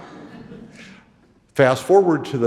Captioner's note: audience laughing